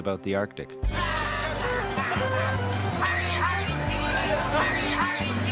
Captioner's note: light playful noises